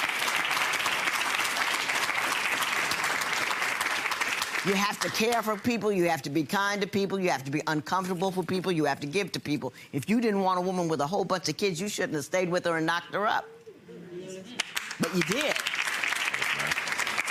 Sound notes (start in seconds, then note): 0.0 audience applauds; 14.6 audience applauds